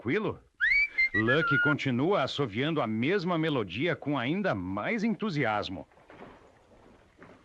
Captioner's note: lucky continues whistling